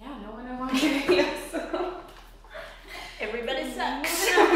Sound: women laugh; women laugh

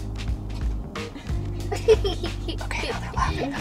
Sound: laughing

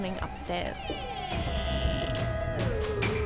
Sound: cupboard creaking

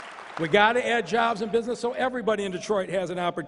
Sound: applause

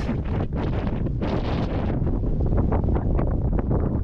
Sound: wind

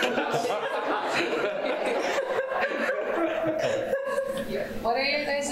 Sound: laughter

